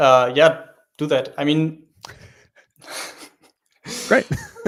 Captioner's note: laughs